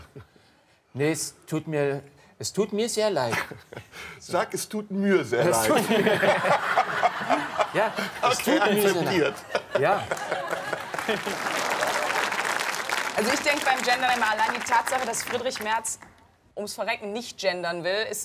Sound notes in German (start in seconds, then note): 5.5 Sie lachen; 10.1 Applaus